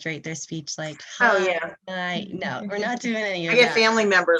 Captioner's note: dragged out speech